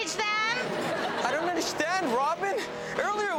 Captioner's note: audience laughs